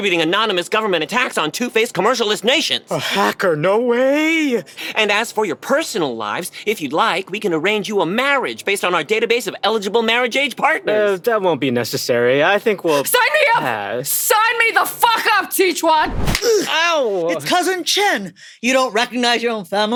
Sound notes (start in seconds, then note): 16.0 swish sound to new flashback; 16.0 sound of a slap